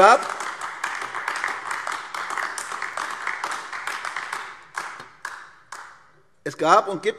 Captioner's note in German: Beifall AfD